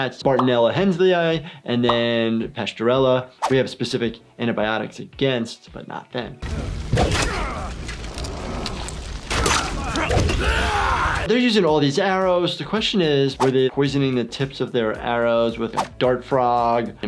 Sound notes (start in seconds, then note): 6.8 arrow whooshing; 7.1 grunting; 10.5 yelling